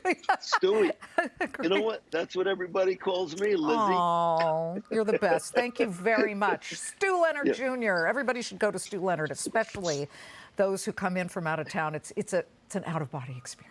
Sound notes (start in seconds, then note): 4.3 laughter